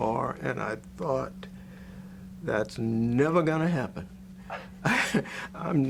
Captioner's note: laughs